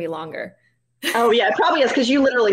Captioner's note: chuckling